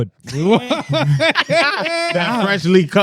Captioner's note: laughing